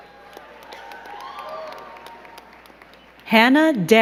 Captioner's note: crowd cheering and clapping